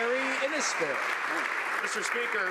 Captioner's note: some Applause